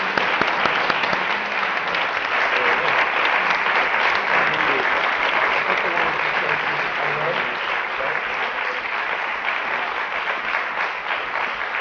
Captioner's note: applause